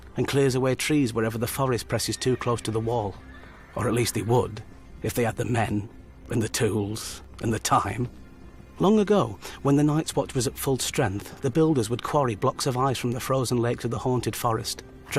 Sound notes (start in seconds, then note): 1.8 horse whinnying